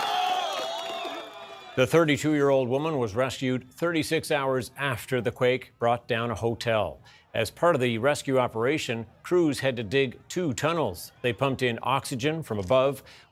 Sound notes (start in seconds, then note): 1.6 cheers and applause